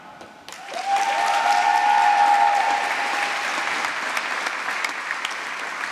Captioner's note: applause